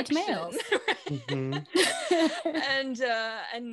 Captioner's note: laughs